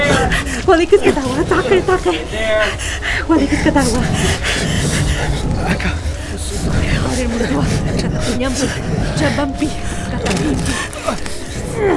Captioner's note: sounds of gunfire and screams outside the room; Ryder grunts in pain